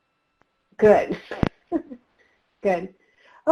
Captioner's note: laughs